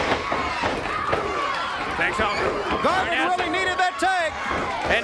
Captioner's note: crowd cheering